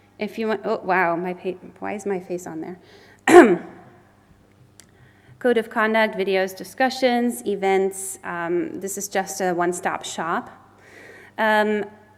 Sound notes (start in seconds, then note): 3.2 clears the throat